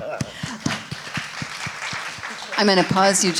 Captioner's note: audience applauding